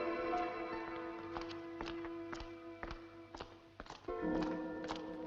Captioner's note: footsteps approaching